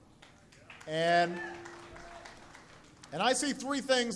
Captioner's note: applause